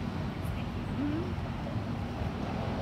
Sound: murmurs you’re welcome

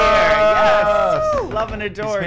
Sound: cheering

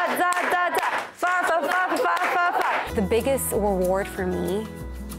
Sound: clapping

